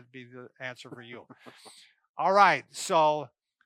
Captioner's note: laughs